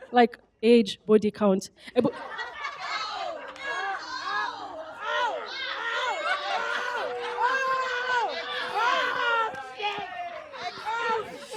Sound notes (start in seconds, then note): 1.9 laughter; 4.2 shouting